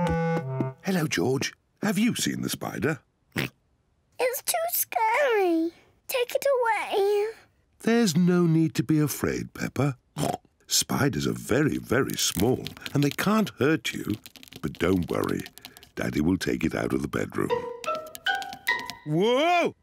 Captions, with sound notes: Hello, George. Have you seen the spider? (OINKS) It's too scary! Take it away. There's no need to be afraid, Peppa. (OINKS) Spiders are very, very small, and they can't hurt you. But don't worry, Daddy will take it out of the bedroom. Whoa!